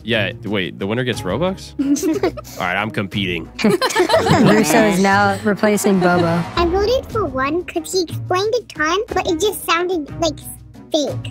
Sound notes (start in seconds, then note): 1.8 contestants giggling; 3.6 contestants laughing